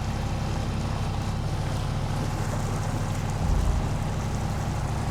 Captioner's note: water sloshing